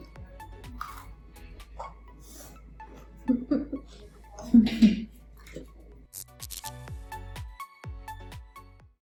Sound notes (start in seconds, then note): 3.2 chuckling